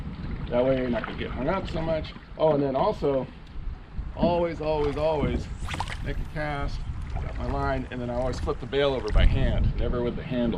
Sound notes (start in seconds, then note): 5.4 rod whipping; 5.4 reel spinning